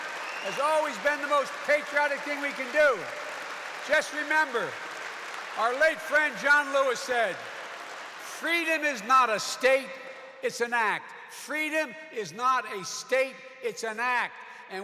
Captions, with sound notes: has always been the most patriotic thing we can do. (Applause.) Just remember, our late friend John Lewis said, "Freedom is not a state; it is an act." "Freedom is not a state; it is an act."